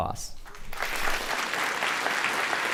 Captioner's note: applause